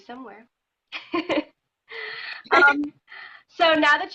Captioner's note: laughing